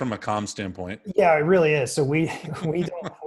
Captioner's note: laughs